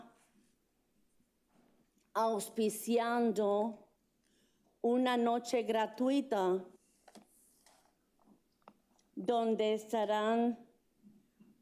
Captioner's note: speaking in spanish